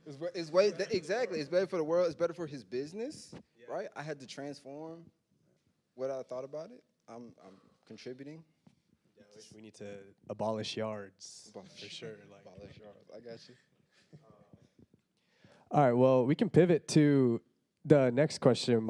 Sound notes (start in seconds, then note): 13.8 panelists laughing quietly